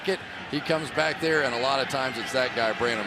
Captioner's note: crowd cheering